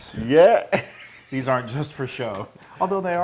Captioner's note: laugh